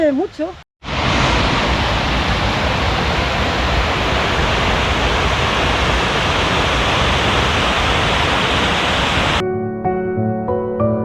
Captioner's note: noise of water